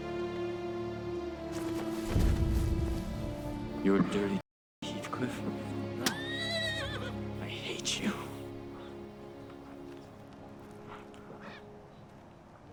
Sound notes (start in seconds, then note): 6.0 horse whinnying; 8.8 soft music